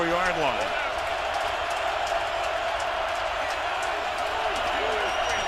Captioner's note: crowd cheering